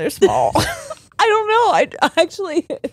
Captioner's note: all laughing